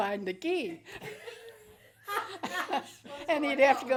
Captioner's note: laughing